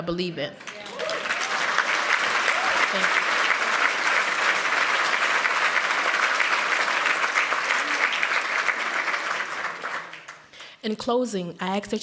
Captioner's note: applause